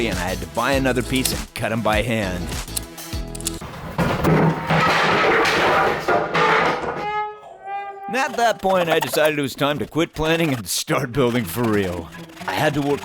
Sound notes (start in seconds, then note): 6.9 fail horn; 12.0 tense music starts